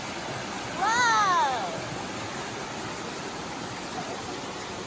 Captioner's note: the creek running behind it